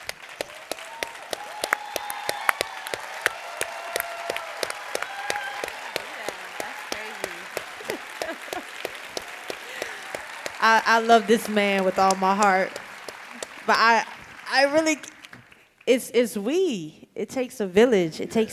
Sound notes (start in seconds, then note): 0.0 audience applauding; 3.2 audience cheering